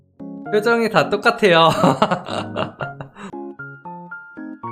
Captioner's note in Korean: 웃음